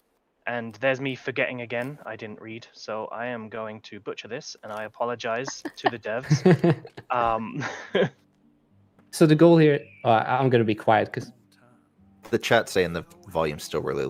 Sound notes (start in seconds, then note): 5.4 laughter